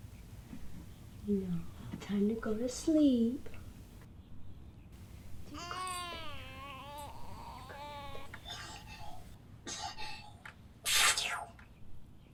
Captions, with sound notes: Time to go to sleep. (baby cooing) (sneezing)